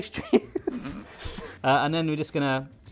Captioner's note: laughing